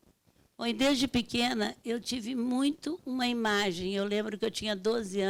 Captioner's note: speaking Portuguese